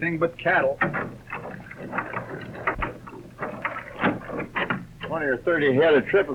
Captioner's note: crank clatters